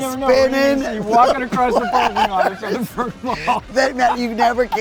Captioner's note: laughs